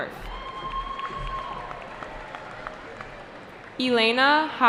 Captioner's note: cheering